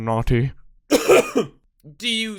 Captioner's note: cough cough